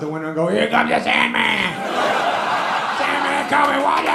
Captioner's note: audience laughs